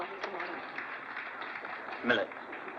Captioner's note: applause